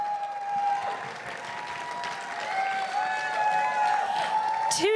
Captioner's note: crowd cheering and applauding